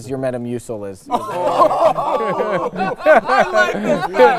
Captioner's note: all laughing